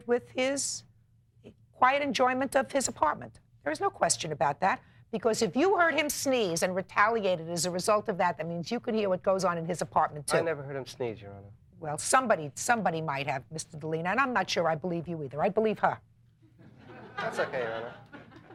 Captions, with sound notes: with his quiet enjoyment of his apartment. There is no question about that. Because if you heard him sneeze and retaliated as a result of that, that means you could hear what goes on in his apartment too. - I never heard him sneeze, your Honor. - Well, somebody might have Mr. Delina and I'm not sure I believe you either. I believe her. (courtroom laughing) - That's okay, your Honor.